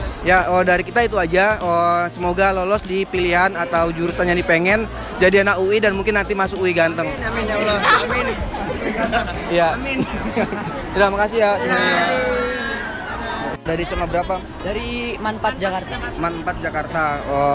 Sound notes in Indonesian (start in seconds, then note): 9.4 Tertawa